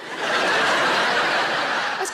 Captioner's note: audience laughs